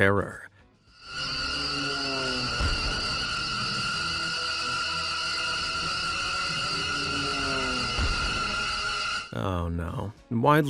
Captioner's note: birds screeching